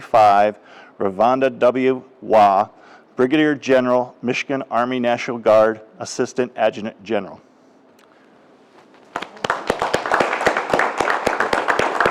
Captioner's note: applause